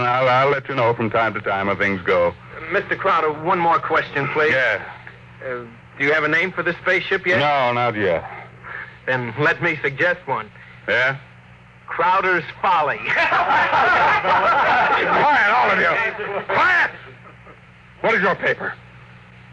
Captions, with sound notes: I'll let you know from time to time how things go. Mr. Crowder, one more question, please. Yes. Do you have a name for the spaceship yet? No, not yet. Then let me suggest one. Yes? Crowder's Folly. [Laughter] Quiet, all of you. Quiet! What is your paper?